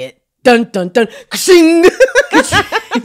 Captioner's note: imitates sound of drumsticks pummeling; both laughing